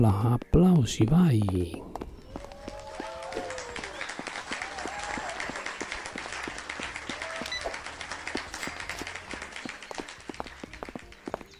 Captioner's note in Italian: Applauso